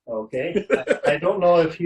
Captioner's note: laughs